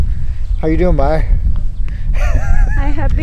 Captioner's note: laughs